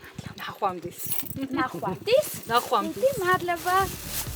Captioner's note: in Georgian